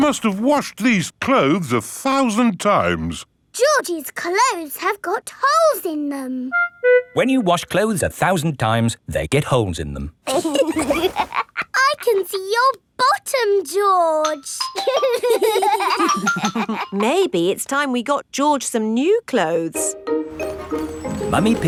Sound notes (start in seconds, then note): 10.2 laughs; 14.7 giggling